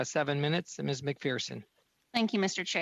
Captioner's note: speaking French